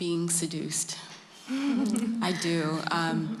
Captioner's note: laughter